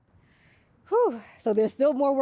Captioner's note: sighs